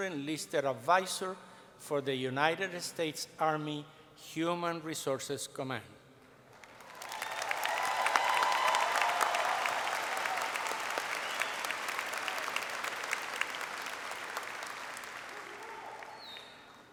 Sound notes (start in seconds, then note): 6.5 applause